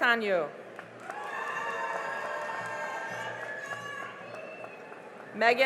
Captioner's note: cheering and applause